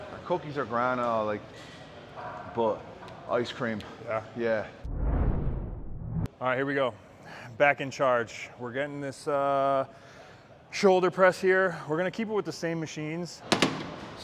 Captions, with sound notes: Cookies are grand, but I like ice cream. Yeah? Yeah. (scene swooshing) All right, here we go, back in charge. We're getting this shoulder press here. We're gonna keep it with the same machines.